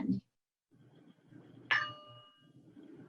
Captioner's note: bell rings